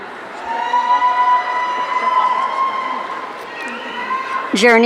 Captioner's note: audience cheering